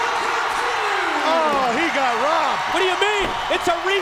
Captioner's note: crowd cheering